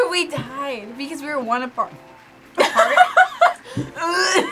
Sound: burps; laughs

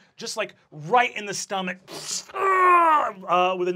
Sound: squishes and grunts

